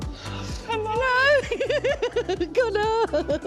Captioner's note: laughter, sobbing; laughs